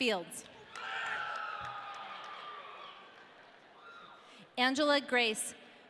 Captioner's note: audience cheering